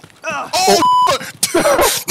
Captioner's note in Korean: 고통스러운 소리